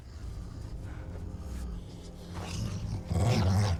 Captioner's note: low growling